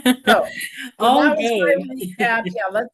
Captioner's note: laughs; faintly speaking